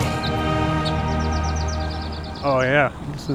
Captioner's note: birds chirping